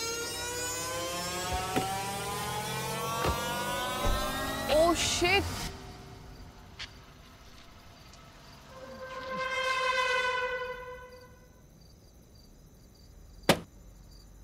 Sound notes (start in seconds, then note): 2.8 car door opens; 3.0 car door closes; 13.3 balloon pops